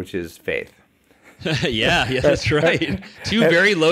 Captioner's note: laughs